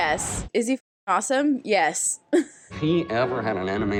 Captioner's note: chuckles